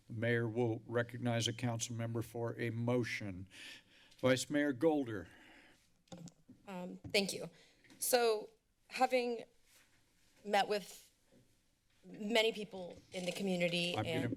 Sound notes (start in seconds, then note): 6.3 mic thump